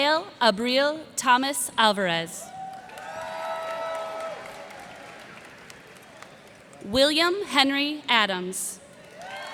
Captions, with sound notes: Abigail April Thomas-Alvarez. [cheers and applause] William Henry Adams.